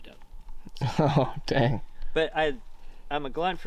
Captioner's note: chuckles